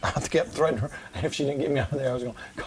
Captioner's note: laughs